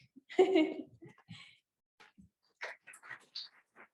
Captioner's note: laughs